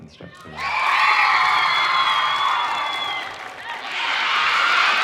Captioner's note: audience cheering